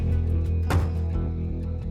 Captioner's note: closes car door